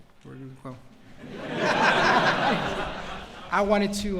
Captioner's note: laughter